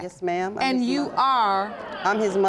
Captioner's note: audience murmuring